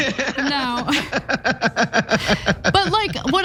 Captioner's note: laugh